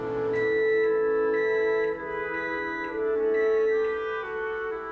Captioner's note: microwave beeping